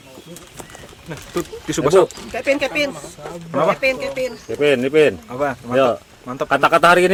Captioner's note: laughing